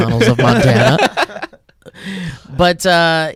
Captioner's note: laughs